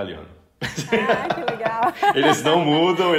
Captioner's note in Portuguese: risos